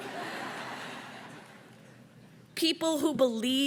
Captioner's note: audience laughs